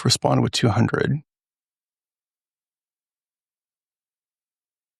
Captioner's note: blank Audio